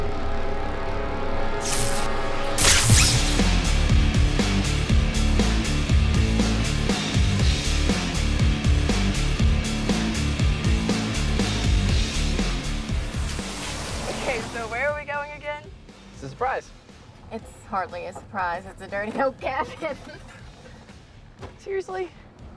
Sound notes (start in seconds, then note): 1.6 electronic zapping; 4.3 upbeat rock music; 21.5 laughs